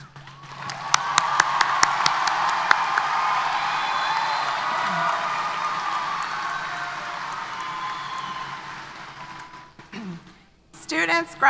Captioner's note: applause & Cheers